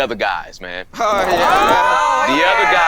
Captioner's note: all exclaiming